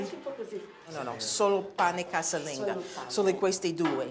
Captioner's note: speaking Italian